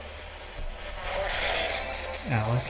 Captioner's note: spirit box voice